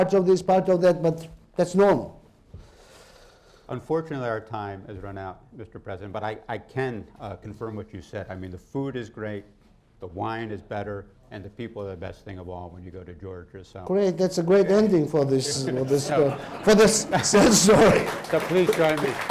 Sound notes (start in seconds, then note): 15.3 laughs; 15.5 laughter; 17.2 applause